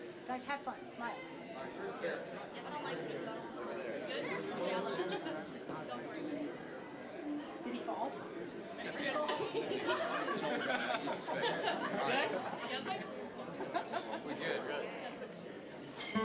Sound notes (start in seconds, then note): 1.9 general chatter